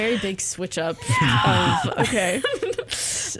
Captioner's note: giggles; squeals